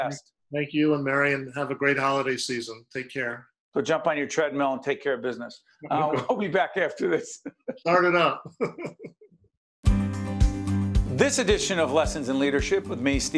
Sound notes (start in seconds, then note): 8.4 laughing